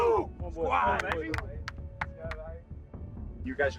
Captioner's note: clapping hangs